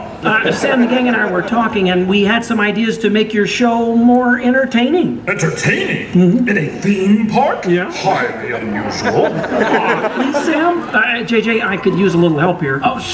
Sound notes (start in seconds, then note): 7.8 audience laughter